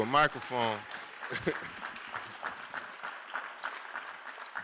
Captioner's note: applause